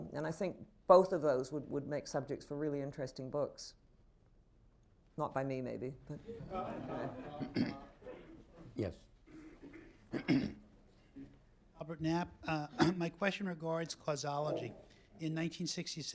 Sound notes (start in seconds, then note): 7.9 laughter